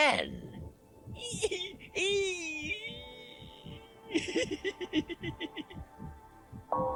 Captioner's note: Gatekeeper giggles